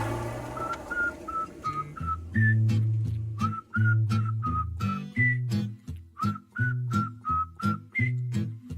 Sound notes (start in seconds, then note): 1.0 man whistles; 1.5 soft music